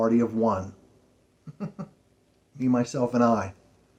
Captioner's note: chuckles